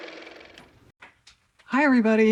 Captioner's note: car motor